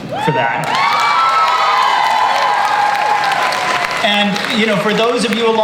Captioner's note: audience cheers